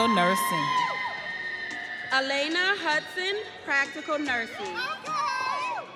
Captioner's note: audience cheering